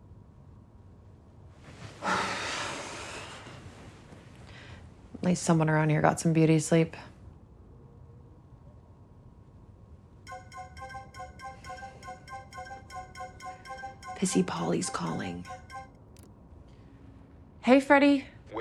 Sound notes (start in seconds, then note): 2.0 sighing; 10.2 phone rings